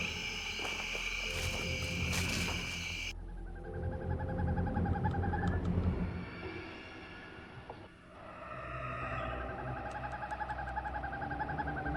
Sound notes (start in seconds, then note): 3.4 owl hooting; 8.3 suspenseful music